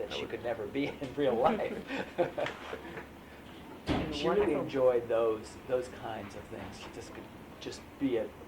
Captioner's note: laughter